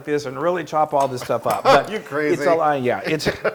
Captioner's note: laugh